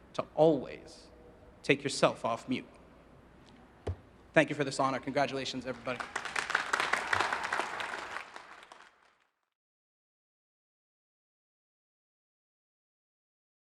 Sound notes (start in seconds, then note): 3.8 hand tapping; 5.6 audience cheering and applauding